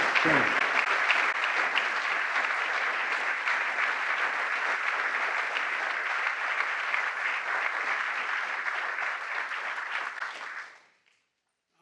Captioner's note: applause